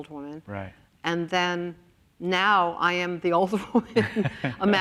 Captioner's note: laughs